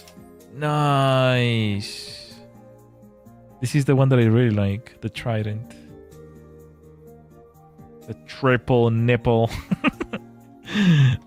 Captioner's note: laughter